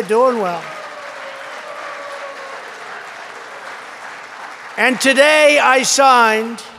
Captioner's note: applause